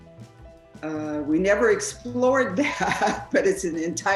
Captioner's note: laughing